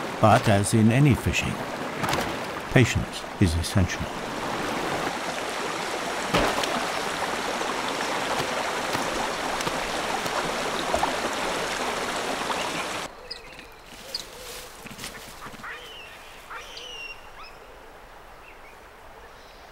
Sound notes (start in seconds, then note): 4.3 running water; 13.2 nature sounds